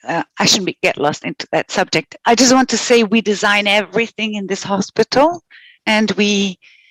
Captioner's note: non-english speech